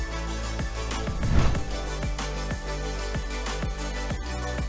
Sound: text swooshes

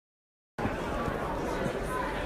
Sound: chatter

